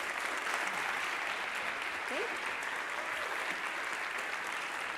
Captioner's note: applause